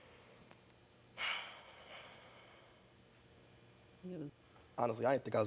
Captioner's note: sighing